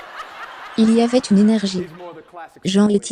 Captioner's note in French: hôtes et public riant